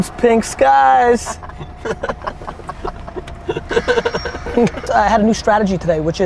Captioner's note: group laughter